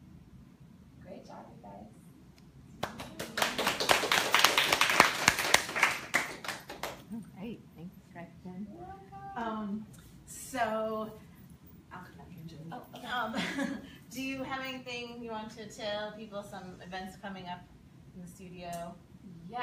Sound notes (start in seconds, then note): 2.8 clapping